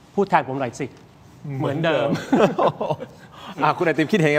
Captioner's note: laughs